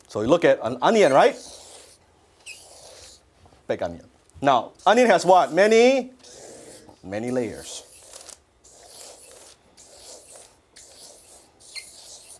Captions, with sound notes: So we look at an onion, right? Big onion. Now, onion has what? Many... Many layers. (marker drawing)